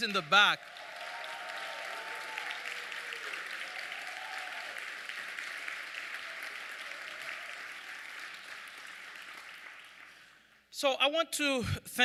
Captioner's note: audience clapping